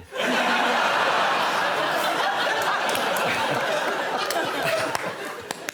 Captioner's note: laughter